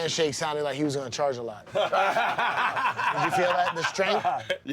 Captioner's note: laughter